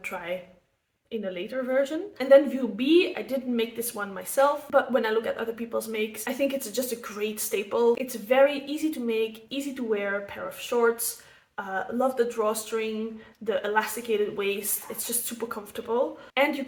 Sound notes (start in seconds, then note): none